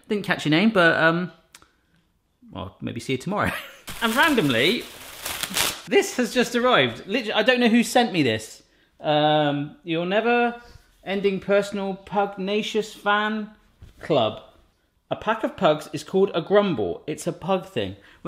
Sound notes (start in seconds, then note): 3.5 laughing; 3.8 plastic ripping